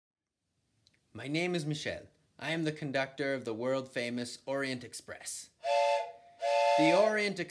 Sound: toot toot

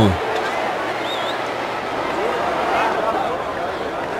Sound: crowd cheering

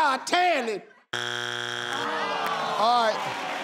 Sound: machine buzzes; audience cheers

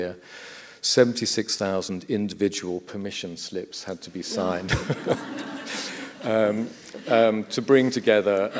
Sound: laughter

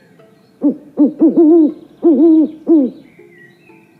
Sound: owl Hoots

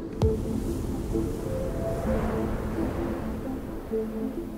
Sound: gentle music; wind blowing

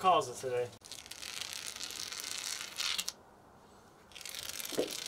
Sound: applicator scraping

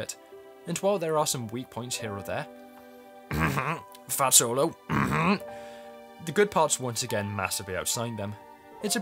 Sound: coughing

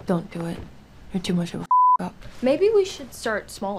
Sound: beep

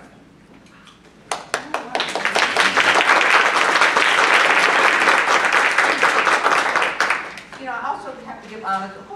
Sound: applause

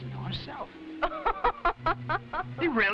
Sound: Raina laughing

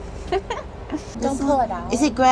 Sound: laughs

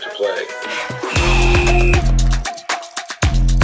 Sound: referee whistle blows

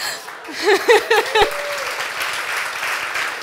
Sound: applause

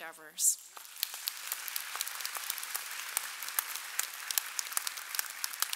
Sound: audience applauding

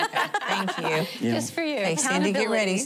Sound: laughing

